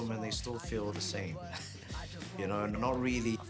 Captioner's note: laughs